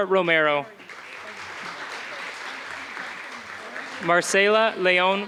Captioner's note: applause